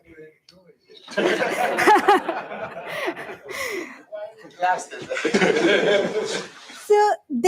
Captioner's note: laughter